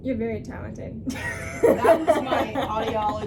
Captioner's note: laughs